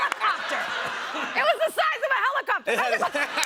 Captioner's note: laughter